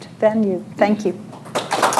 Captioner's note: applause